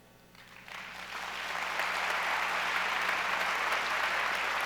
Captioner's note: audience applauds